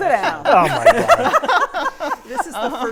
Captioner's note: panelists laughing